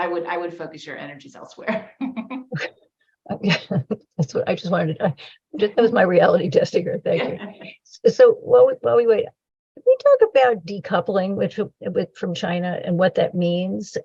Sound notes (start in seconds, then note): 1.9 laughter; 7.4 laughs